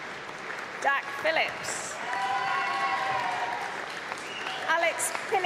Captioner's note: applause; applause